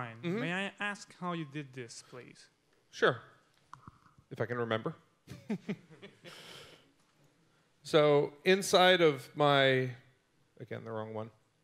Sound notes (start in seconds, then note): 5.3 laughing